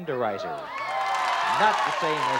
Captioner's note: cheering and applause